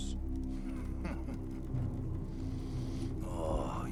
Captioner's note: laughs